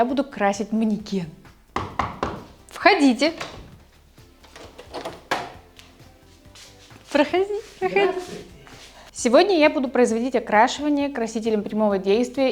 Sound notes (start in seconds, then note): 1.7 knock-knock